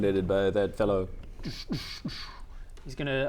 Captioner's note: dssch dssch dssch